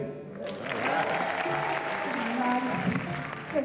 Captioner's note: applause, cheering